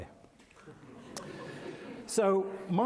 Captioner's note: laughter